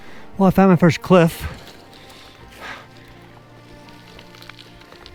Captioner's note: breathing